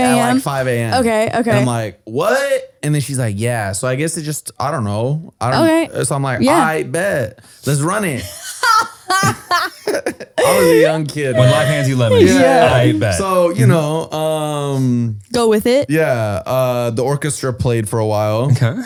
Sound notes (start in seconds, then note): 8.2 laughs